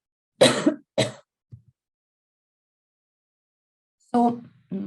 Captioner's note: coughs